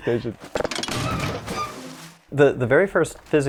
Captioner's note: metal creaking; water splashes